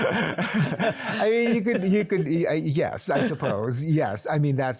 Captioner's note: both laugh